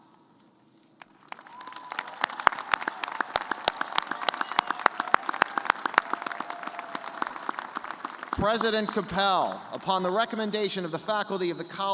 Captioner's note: cheers and applause